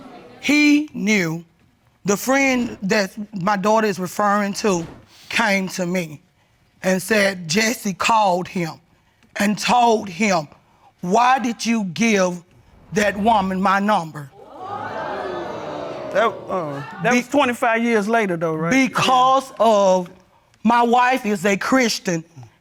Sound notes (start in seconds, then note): 12.8 audience exclaiming